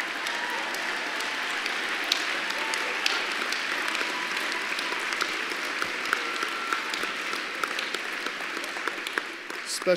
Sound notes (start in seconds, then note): 2.7 laughter and applause